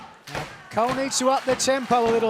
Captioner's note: clapping